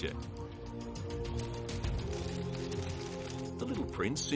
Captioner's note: cameras clicking